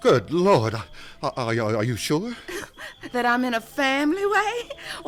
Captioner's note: stammers; laughs